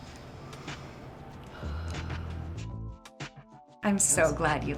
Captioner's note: Jillian exhales deeply